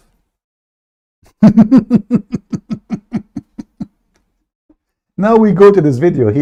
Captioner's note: Ketawa